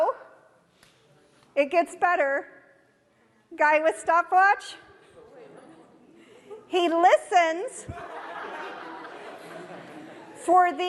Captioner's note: audience laughter